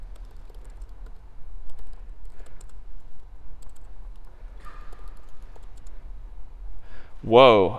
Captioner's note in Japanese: キーのクリック音